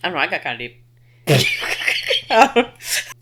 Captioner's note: laughing